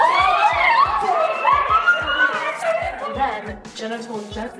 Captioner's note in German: lacht und schreit